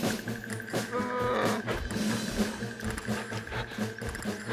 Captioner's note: bear growls